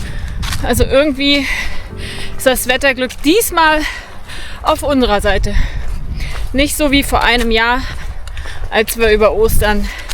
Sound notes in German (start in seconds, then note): 3.9 japst